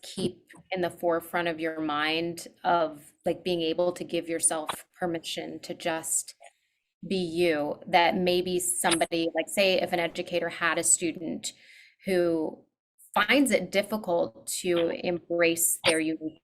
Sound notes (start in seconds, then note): none